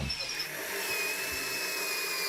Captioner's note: drilling noises